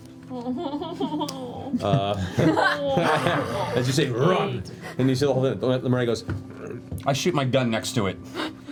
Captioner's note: curious grunt